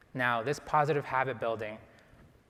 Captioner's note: none